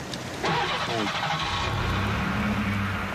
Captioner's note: engine starts